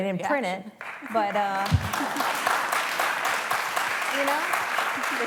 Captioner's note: applause